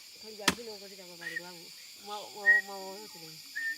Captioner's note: whistling